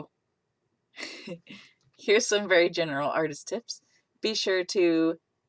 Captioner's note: laughs